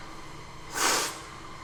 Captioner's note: sips